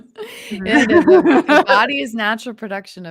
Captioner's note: presenter laughing